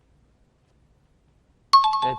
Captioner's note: dinging